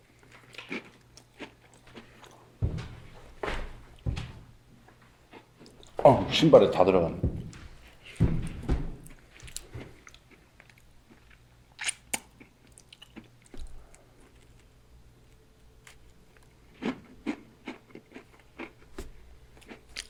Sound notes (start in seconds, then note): 2.6 soccer kick